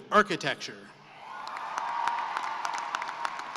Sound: cheering and applause

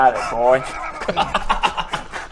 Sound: laughs

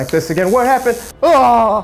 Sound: buzzing

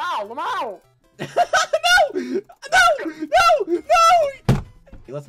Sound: nervously Laughs; table Slam

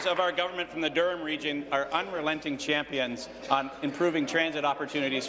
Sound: applause

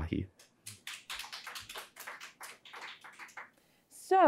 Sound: audience applauding

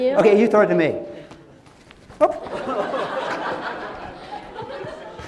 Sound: laughter

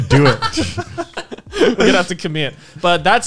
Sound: laughing

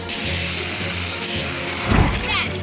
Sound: roar

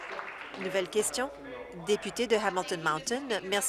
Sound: applause

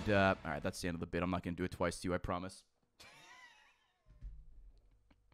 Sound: laughs

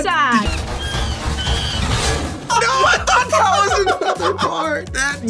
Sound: gorilla shrieking

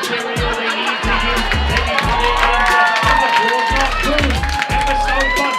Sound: laughter and cheers

